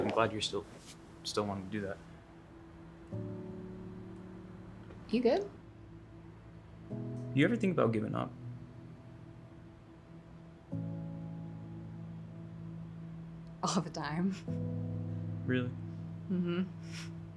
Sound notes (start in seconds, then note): 3.1 soft melancholic music; 10.9 soft melancholic music; 14.7 chuckles